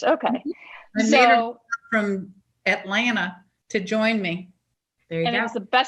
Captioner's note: audio warps